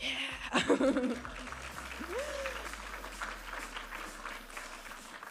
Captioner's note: audience applauding